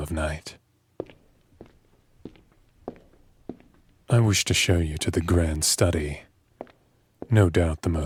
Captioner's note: light footsteps